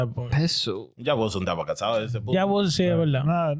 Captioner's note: speaking In Foreign Language